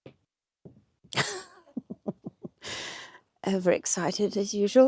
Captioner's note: laughs